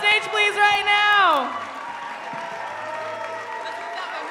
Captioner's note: cheering and applause